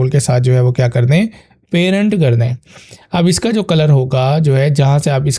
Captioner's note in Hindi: नाक से की जाने वाली आवाज़